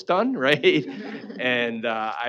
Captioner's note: laughing